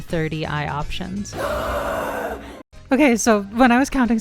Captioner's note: pained scream